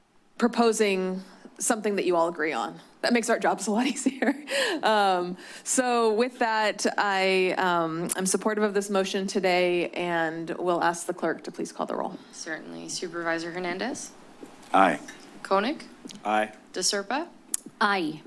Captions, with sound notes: proposing something that you all agree on. That makes our jobs a lot easier. [chuckles] So with that, I am supportive of this motion today. And we'll ask the clerk to please call the roll. - Certainly. - Supervisor Hernandez? - Aye. - Koenig? - Aye. - De Serpa? - Aye.